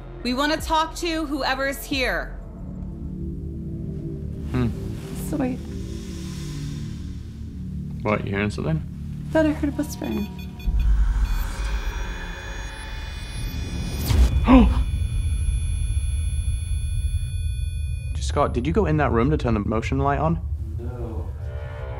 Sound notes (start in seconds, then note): 9.8 beeping; 14.0 gasps